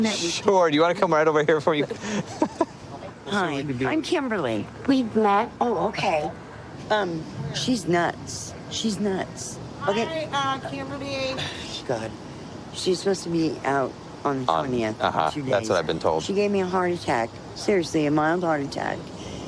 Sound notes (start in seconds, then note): 2.0 laughing; 9.7 scoffs